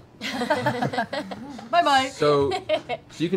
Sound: laughing

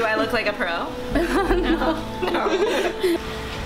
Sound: laughing

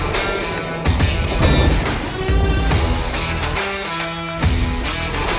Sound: thunder cracking

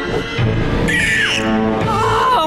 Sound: squawking

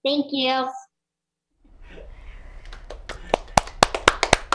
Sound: applause

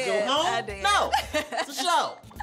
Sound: laughs

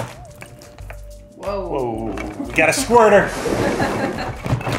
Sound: laughs

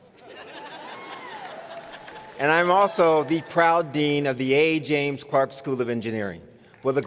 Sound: laughter

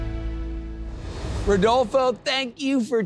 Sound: graphics whoosh

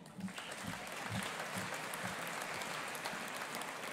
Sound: audience applauding

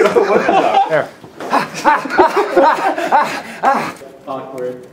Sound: laughter; makes desperate 'ha'ing noises

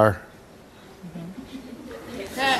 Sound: audience laughs

